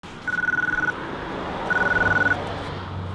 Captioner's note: ringing